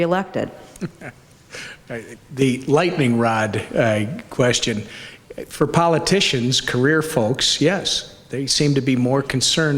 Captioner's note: laughs